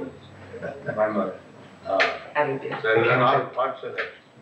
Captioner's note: chuckles